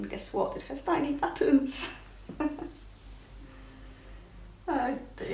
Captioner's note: giggles